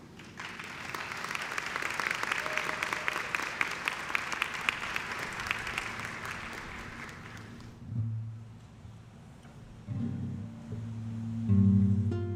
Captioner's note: clapping